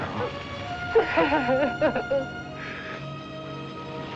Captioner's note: sobbing